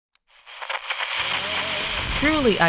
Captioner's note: radio static